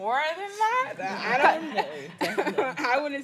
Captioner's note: laughs